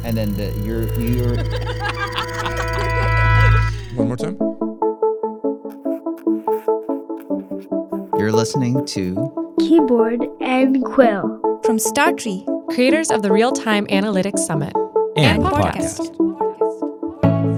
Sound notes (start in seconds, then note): 2.1 person laughing; 5.6 bright music; 5.7 quill scratching